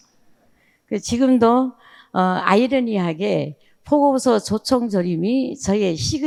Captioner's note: speaking in foreign language